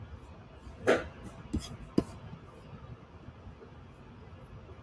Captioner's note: object rustling